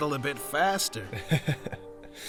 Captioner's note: Lhikan chuckles